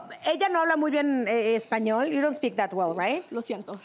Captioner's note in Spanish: Hablan en inglés